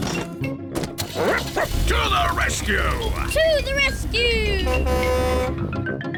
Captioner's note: barks; horn blares